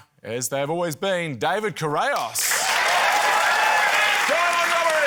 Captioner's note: cheering, applause